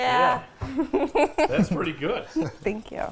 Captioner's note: laughs